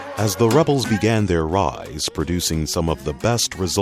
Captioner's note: voiceover